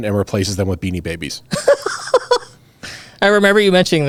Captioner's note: laughs